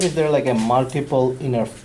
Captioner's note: voiceover